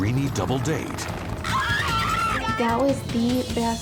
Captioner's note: women shrieking